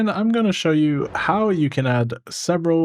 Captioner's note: whooshing